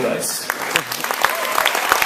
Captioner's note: applause